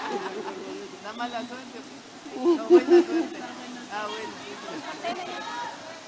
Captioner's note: laughter